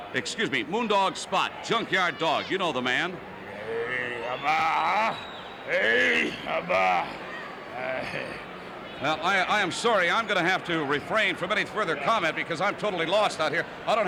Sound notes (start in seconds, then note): 3.8 gibberish grunts